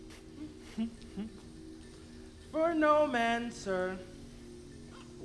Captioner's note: laughs